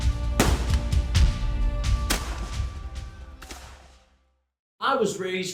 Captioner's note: solemn music; gunfire banging